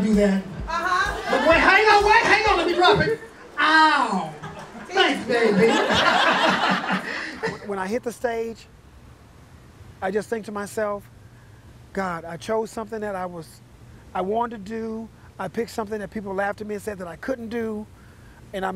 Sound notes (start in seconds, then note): 0.0 more cheering; 4.3 laughter